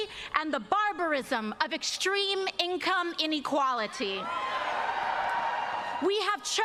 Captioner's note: cheers and applause